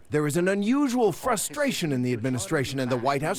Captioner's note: speaking a foreign language